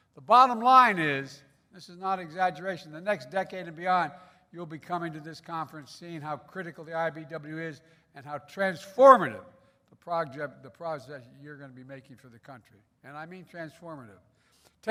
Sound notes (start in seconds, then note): none